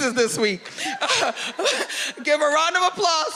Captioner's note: laughing